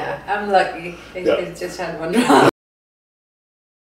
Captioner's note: laughter